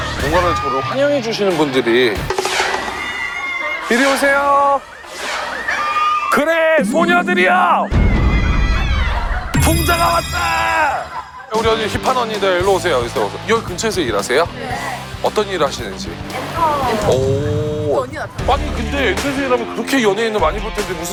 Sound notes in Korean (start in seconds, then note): 2.4 멀리서 들리는 환영의 비명